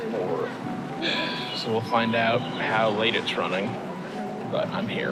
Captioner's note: sighs